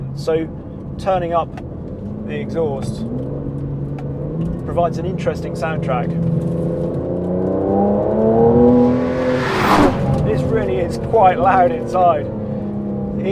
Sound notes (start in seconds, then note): 6.4 car rumbling; 9.3 car zooming